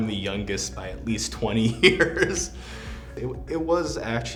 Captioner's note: laughs